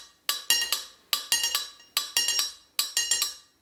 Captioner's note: taps rhythm